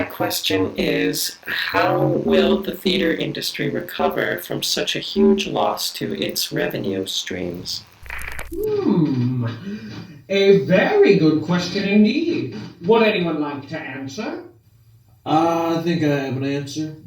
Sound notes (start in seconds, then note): 14.8 thick souther accent